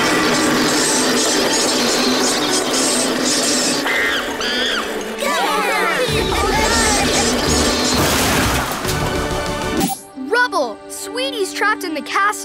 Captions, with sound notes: [monkey noises] [cheering] Rubble, Sweetie's trapped in the castle,